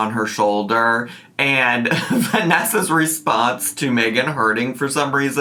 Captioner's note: laughs